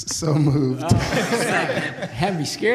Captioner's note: laughter